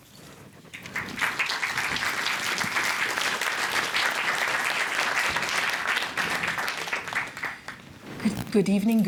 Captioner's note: applause